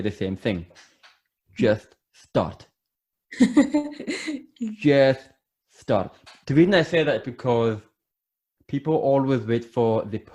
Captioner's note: laughs